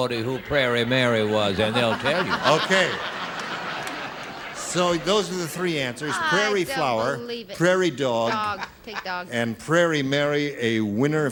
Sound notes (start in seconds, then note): 4.5 brett laughing